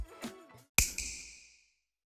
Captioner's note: snap